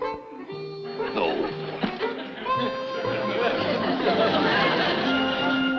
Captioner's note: playful music; audience laughs; bright upbeat music